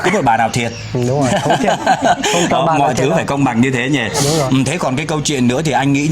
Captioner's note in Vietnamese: tiếng cười